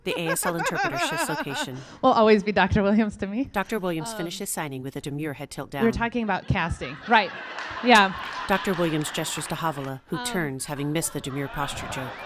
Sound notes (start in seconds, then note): 0.0 laughing; 6.2 audience laughing